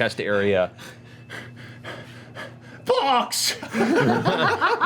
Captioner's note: pants; laughter